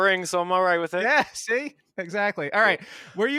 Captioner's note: laughs